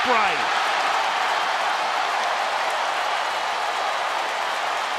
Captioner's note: crowd cheering